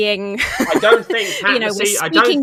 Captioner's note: laughs